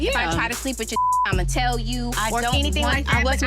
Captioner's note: beep